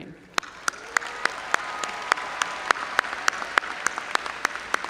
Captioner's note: audience applauding